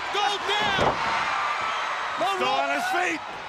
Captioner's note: crowd cheering